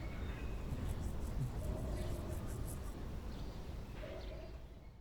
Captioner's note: birds chirping faintly